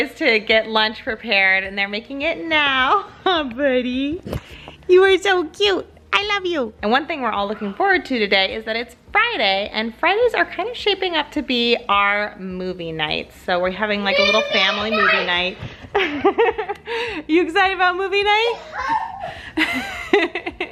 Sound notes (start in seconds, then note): 15.7 laughs; 18.5 laughs